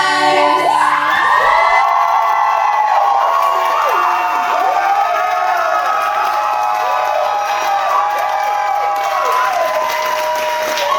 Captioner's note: audience cheering